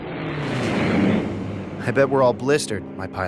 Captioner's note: jet engine roaring